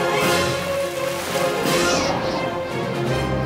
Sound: wind blowing

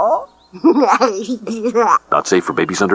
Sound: chuckles

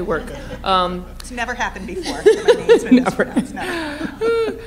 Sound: laughter

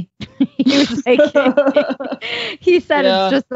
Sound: laughing

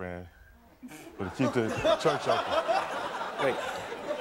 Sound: audience laughing

